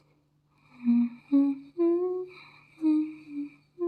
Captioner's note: humming